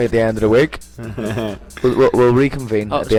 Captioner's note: laugh